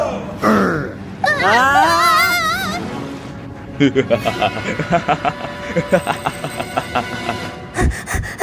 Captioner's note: Darknyan groans; both scream; Nate & Hailey panting